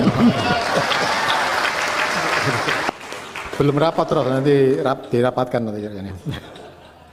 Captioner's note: applause